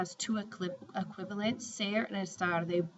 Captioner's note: spanish